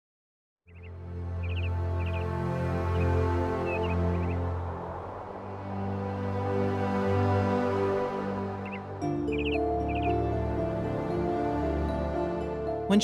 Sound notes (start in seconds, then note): 0.6 birds chirping; 8.2 suspenseful music